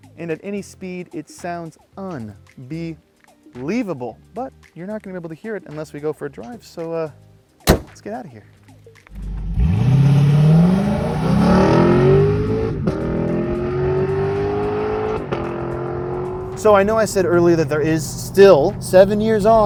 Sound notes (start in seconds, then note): 9.1 car engine revs